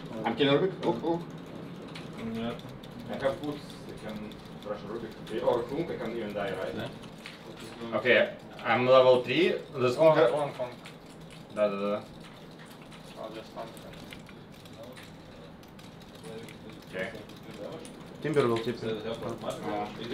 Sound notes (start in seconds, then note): 13.5 keys clacking; 13.5 mouse clicking